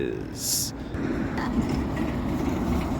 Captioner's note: stutters in frustration